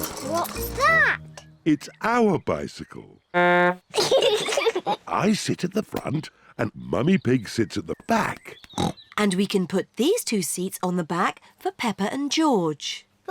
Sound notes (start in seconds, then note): 3.3 toots horn; 3.9 both giggle; 8.8 snorts